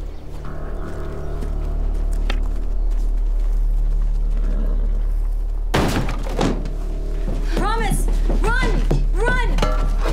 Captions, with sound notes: (door busts open) - Promise, run, run!